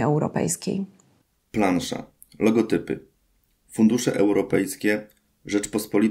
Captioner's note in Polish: Głos męski z offu, audiodeskrypcja planszy